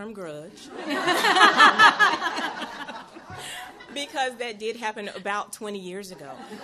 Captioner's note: chuckles; chuckles